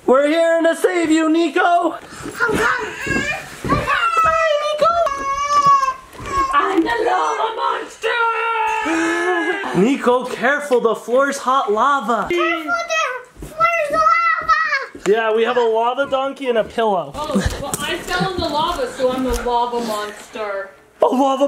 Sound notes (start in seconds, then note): 3.3 cries